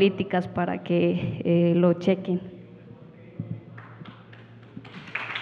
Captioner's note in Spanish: Aplausos